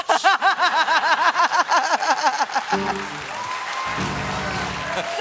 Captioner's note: laughter; applause